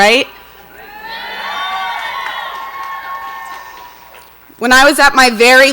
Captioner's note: audience cheers and applauds